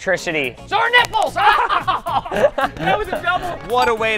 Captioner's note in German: lachen